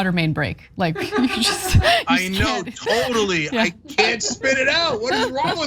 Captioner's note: laugh